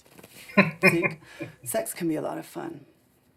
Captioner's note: chuckling